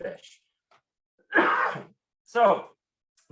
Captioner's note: coughs